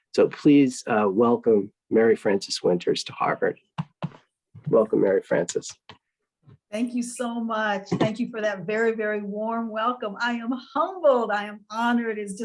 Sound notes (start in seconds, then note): 3.9 applauding